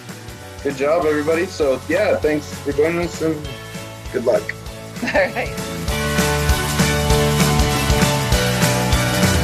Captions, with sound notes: Good job everybody. Yeah, thanks for joining us, and good luck. - All right. (laughs) (upbeat music)